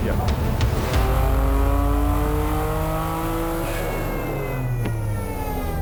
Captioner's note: car engine roaring